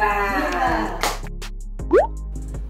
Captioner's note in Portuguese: clap~